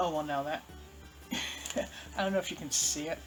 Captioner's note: chuckle